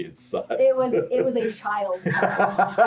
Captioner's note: laughs